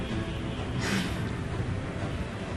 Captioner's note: exhales